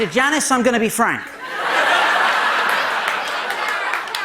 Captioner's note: laughter